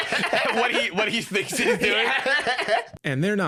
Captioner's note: laughing; laughs